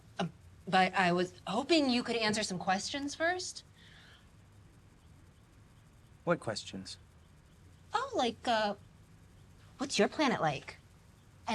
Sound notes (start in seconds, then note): none